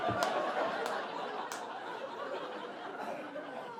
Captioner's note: audience laughing